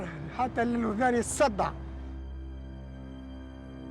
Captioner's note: speaking in foreign language; ominous music